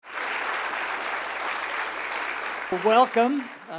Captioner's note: applause